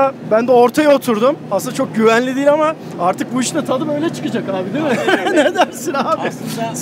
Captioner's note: laughings